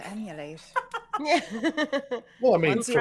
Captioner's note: all laughing